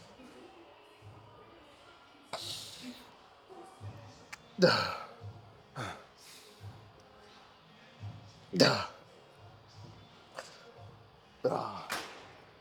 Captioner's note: grunting